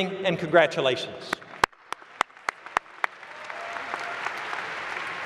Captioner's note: applause